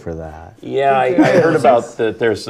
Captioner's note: laugh